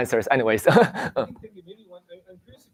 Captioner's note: laughs